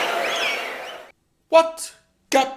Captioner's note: wild applause and cheering for 22 seconds